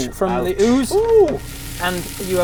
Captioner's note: sizzle